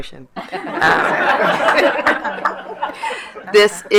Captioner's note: laughter